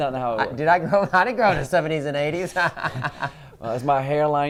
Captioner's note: laughs